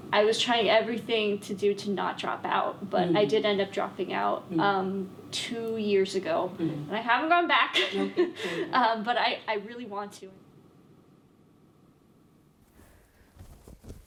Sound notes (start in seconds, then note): 7.8 laughs